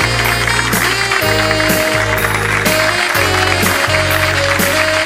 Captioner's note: audience clapping